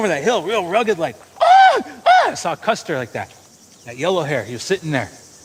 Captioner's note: shouting